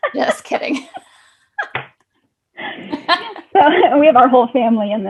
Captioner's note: both laughing